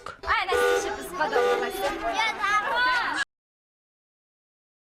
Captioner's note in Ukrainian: Тиснуть на сигнал пожежного авто